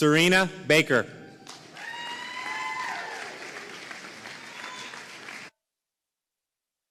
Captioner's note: audience cheering and applauding